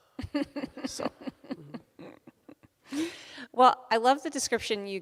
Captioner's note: laughs